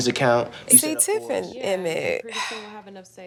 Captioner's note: sighs